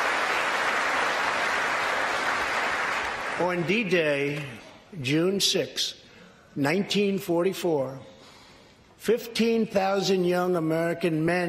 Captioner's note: applause